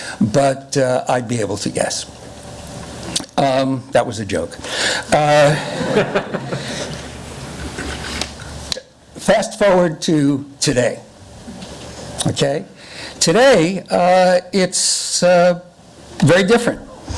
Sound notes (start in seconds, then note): 5.4 laughing